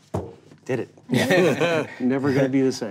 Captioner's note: knocks table